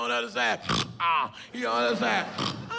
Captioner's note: snore; snores